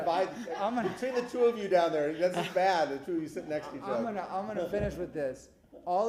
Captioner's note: laughter